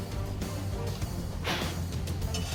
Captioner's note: blowing